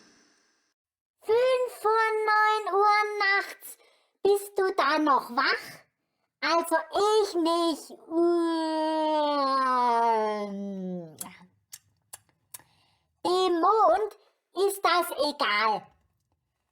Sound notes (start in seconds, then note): 10.4 yawning